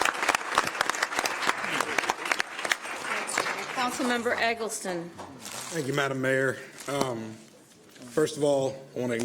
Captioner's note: applause